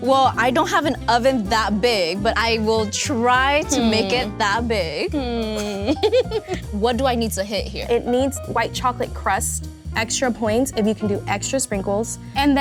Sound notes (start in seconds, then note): 3.6 hums; 4.8 hums and giggles